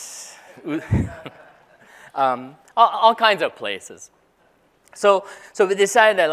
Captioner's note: laugh